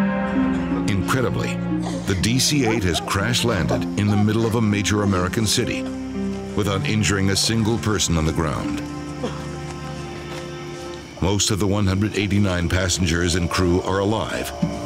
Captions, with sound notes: Incredibly, the DC-8 (passengers coughing) has crash-landed in the middle of a major American city without injuring a single person on the ground. (passenger coughs) Most of the 189 passengers and crew are alive,